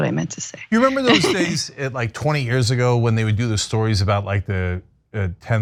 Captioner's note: laugh